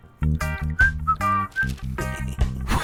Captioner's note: whistles conspicuously; chuckles